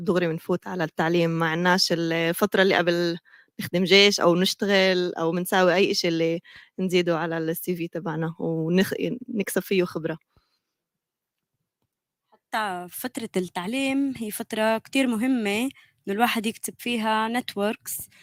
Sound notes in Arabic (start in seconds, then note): 7.2 لغة أجنبية; 17.4 لغة أجنبية